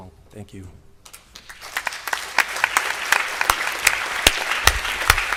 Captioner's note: applause